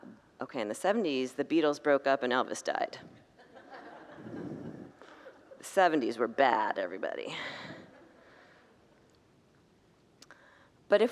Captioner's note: congregants laugh